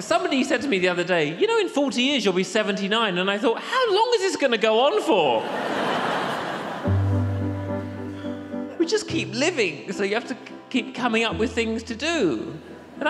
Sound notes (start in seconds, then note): 0.0 audience laughs; 5.4 audience laughs